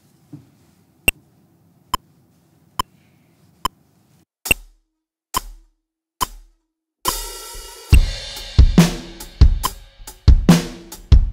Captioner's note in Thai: เสียง Metronome